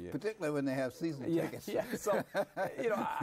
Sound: both chuckle

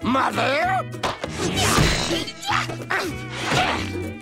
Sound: grunting

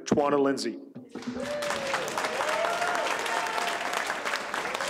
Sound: audience applauds

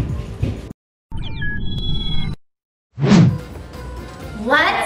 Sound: electronic beeping

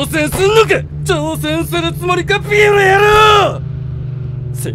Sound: slam

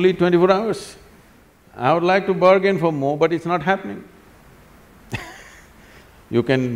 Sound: laughs

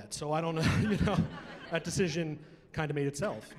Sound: chuckling

